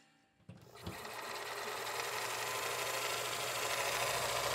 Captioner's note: film reel rolls